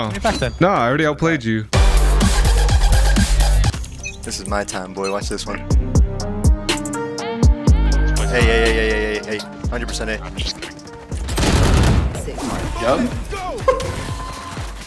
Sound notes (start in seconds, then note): 1.9 upbeat music; 5.9 upbeat music; 11.2 guns firing